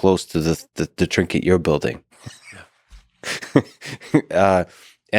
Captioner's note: laughs